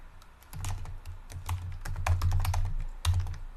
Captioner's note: typing